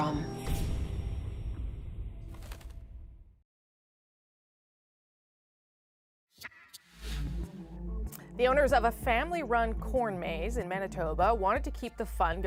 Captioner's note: logo flutters